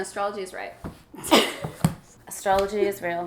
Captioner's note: laughs